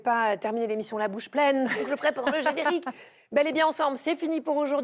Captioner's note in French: rires